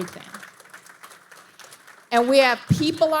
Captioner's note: audience applauding